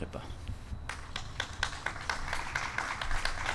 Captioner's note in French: Applaudissements